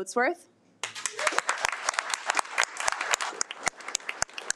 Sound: audience applauding

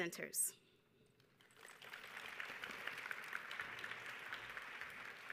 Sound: audience applauding

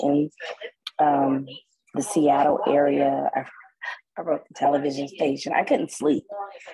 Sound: chuckles

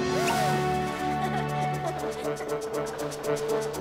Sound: giggles

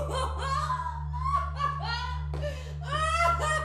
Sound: laughter

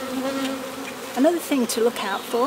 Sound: bees buzzing

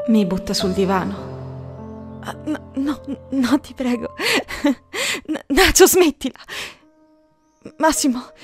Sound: SHE laughs

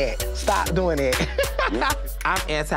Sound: laughing

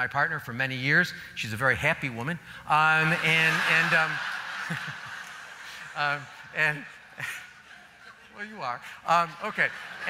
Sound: laughs

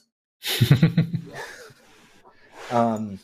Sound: laughter

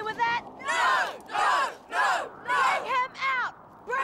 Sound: crowd

